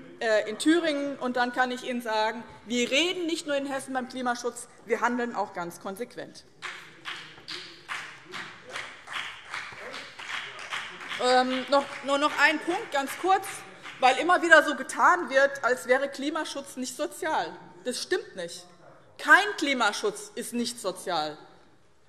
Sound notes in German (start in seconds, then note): 6.6 Beifall BÜNDNIS 90/DIE GRÜNEN